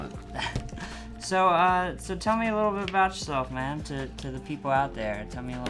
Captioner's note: laughs